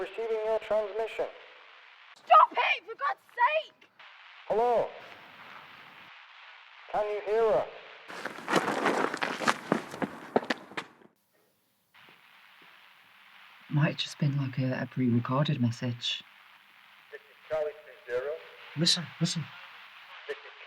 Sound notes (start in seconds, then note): 5.1 radio Voice; 9.8 shoes clattering; 12.6 static buzzing